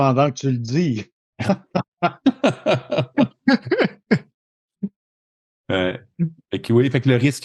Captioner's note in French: Rires